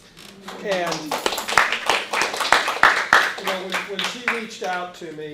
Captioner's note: applauding